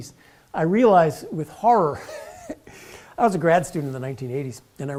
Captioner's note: laugh